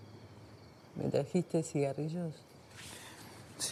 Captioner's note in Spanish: Turca